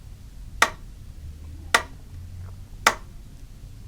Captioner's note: pen tapping